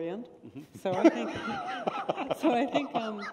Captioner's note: laughter